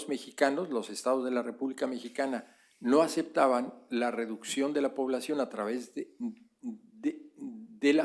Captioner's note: spanish; spanish